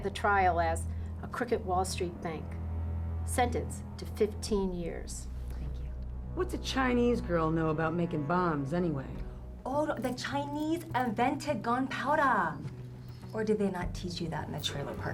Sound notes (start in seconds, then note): 9.1 faking accent; 12.7 no accent